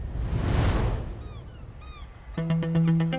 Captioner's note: seagulls cawing